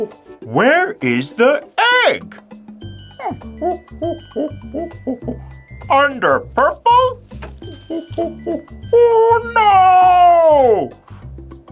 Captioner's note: monkey noises